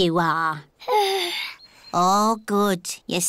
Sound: yawns

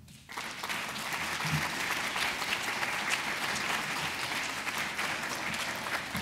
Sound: audience applause

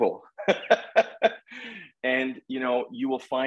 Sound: laughing heartily

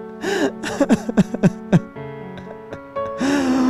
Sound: sobbing

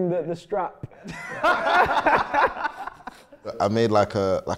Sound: laughing

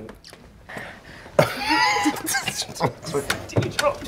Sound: laugher

